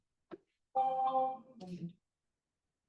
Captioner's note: chime rings; participant murmurs faintly